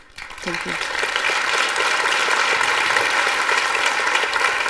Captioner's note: clapping